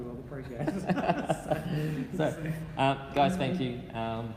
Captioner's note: laughing